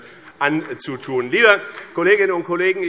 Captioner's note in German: Beifall